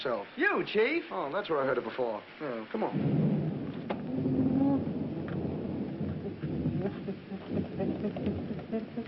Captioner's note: thunder